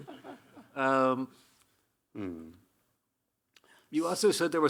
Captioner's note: Hiroshi chuckling